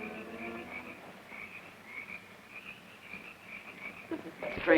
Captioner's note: insects chirping